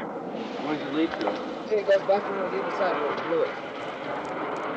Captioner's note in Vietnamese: Tiếng nói chuyện